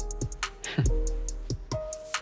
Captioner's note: chuckles